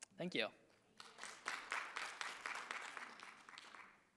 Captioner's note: audience clapping